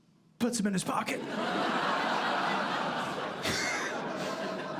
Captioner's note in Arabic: ضحك; يضحك